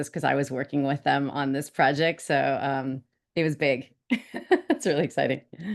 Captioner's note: woman laughs